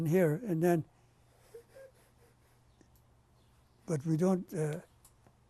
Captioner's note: pauses for 3 seconds